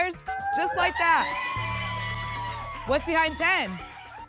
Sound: applause and cheering

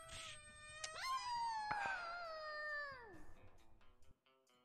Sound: koyote noises

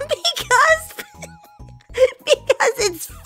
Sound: continues to laugh

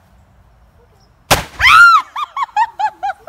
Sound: balloon popping; screaming; laughing

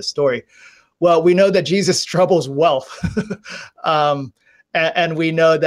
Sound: laughs

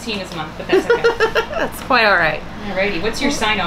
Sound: laughter

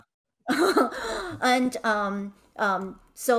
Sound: chuckling

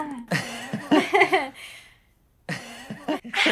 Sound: laughs

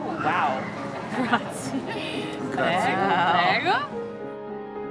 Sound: speaks Italian; mellow music

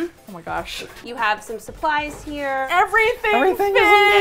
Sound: in disbelief

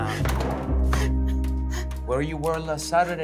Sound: Sylvia gasping

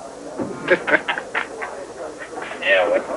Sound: laughter

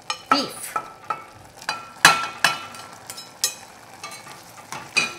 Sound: metal clanking

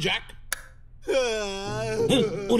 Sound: crying

